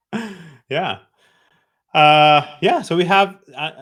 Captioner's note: chuckles